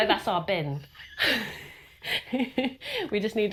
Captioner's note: everyone laughs